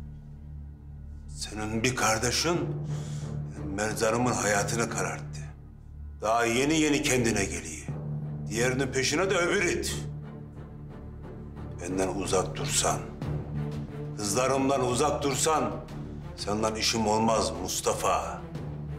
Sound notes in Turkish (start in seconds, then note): none